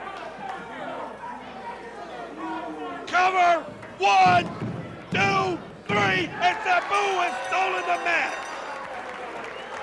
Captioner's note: crowd chatter